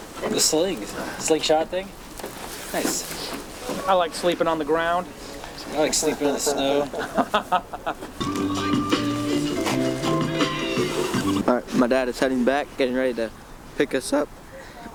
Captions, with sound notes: The slings, slingshot thing? Nice. I like sleeping on the ground. I like sleeping in the snow. (laughing) (upbeat music) All right, my dad is heading back, getting ready to pick us up.